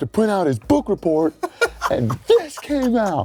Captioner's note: giggles